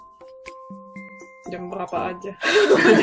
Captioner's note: laughs